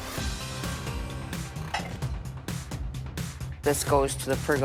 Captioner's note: intense music; objects clattering